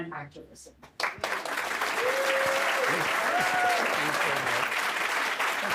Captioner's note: audience clapping